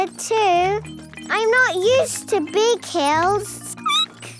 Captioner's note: squeaking